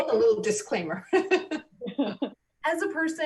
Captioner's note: loud laughs